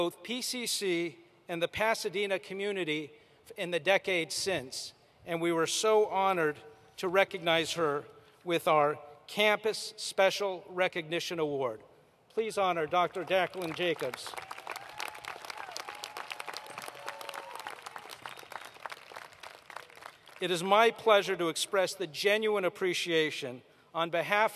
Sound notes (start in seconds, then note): 14.9 applause